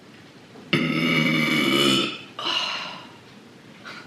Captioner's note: hilarious burp